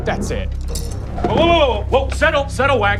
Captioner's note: silverware clinks